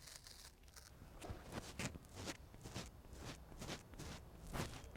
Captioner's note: ruffles mic